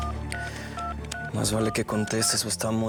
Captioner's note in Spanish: sonido al marcar